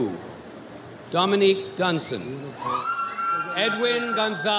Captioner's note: audience applauds